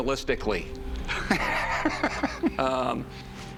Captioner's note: laughs